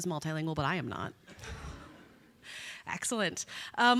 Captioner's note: audience laughing